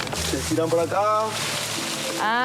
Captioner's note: speaking In Foreign Language